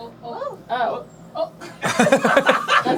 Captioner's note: lots of general surprised noises